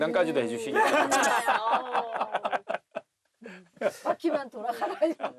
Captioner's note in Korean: 하하하하하하하하